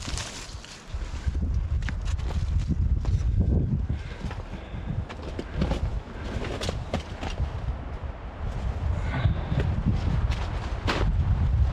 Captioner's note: wind